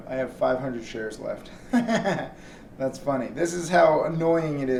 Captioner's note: laughs